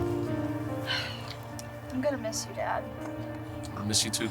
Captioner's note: sighs